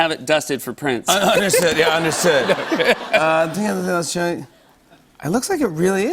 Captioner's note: laughter